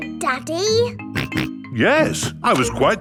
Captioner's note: snorts